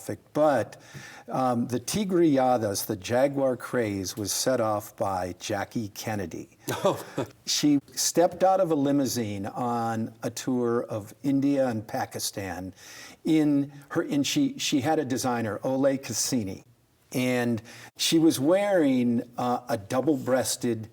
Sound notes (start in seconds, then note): 6.7 laughs